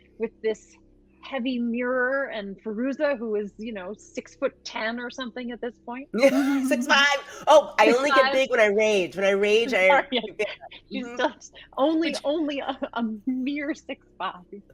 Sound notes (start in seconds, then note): 6.1 laughs